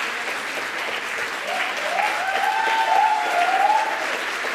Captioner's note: cheers